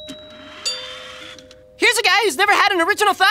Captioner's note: doorbell ringing